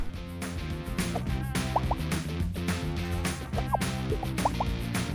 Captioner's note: swipe